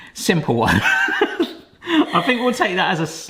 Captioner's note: hearty laughter